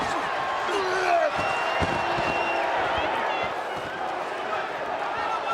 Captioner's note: Undertaker grunts